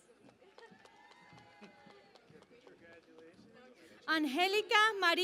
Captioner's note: cheering and Applause